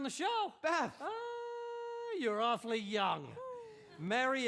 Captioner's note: gussie sighs